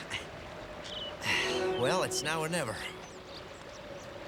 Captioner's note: grunts; sighs